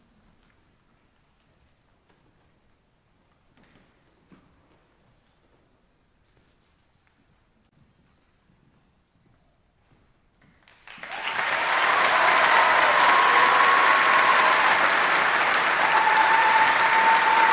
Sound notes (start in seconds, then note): 10.8 audience applauding; 12.4 audience cheering